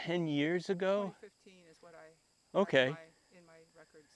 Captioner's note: insects chirping